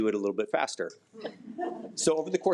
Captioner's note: attendees laugh